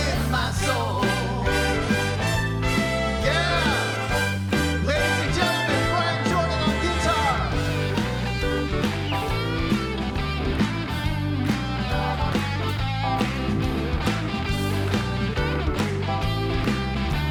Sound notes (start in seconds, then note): 8.8 audience applauds; 15.4 upbeat music